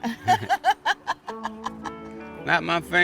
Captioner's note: laughing